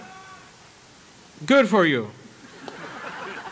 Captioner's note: laughter